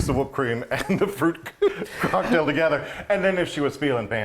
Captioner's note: chuckling